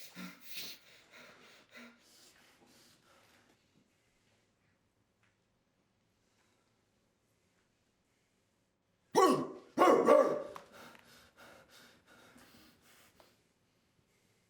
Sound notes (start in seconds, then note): 9.1 barks